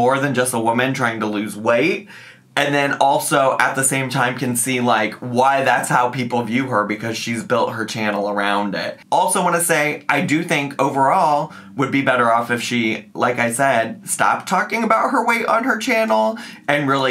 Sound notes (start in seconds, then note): none